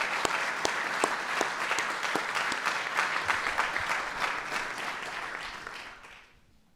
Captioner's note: applause